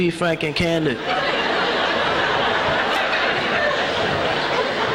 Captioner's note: congregation laughs